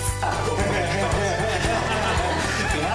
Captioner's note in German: Erleichtertes Lachen